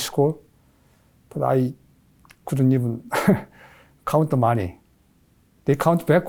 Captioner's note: chuckles